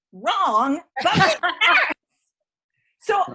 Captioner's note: laughing